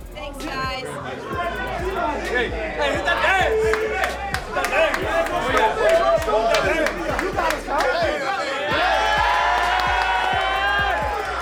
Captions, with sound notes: - Thanks, guys! - Hey! - Hey hit that dance! - Hit that dance! - Go stupid, go stupid! (cheering)